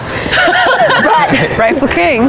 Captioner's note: laughter